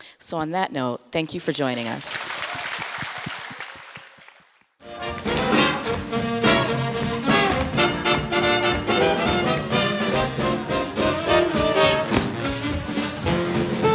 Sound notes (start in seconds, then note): 1.6 audience clapping; 4.9 swing music